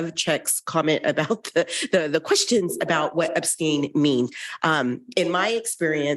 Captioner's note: chuckles